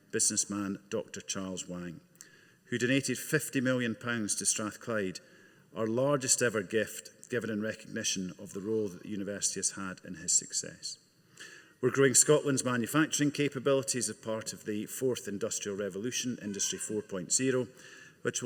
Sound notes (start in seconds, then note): none